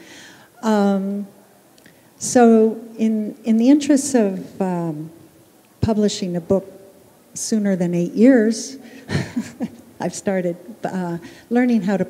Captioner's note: chuckle